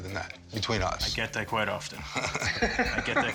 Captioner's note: laughs